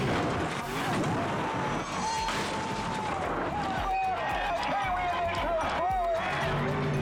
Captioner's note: boat thudding; people exclaiming